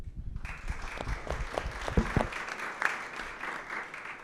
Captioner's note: audience applauds